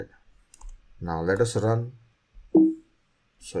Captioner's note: computer beeps